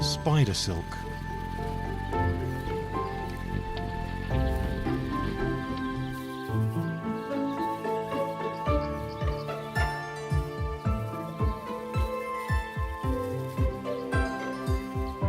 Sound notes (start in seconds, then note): 6.1 birds chirping